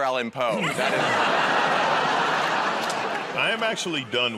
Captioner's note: laughter